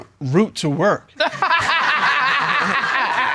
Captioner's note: all laughing